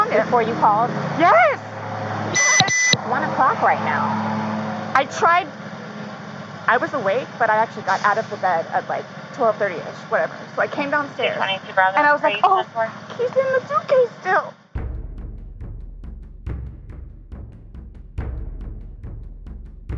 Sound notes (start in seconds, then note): 2.3 police radio beeps; 11.2 officer speaking on radio